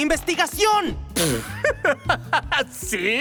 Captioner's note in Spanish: Giovanni se ríe